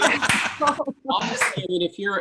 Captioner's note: laughing; clapping